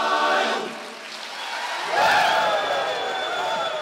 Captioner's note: applause